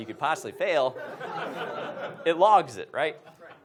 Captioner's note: audience laughs